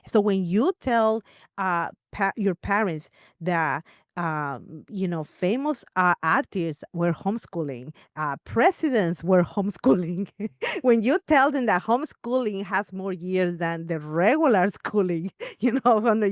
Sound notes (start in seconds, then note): 9.8 laughs